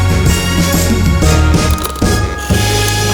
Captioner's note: click